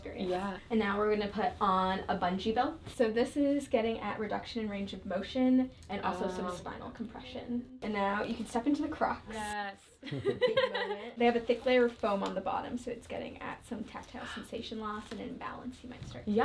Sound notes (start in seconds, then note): 10.0 laughter